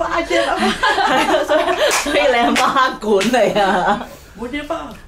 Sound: laugh

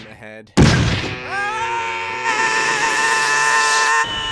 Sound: YAMCHA screams

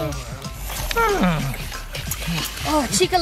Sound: horse neighs

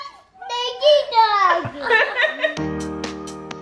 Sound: laughs; inspiring music

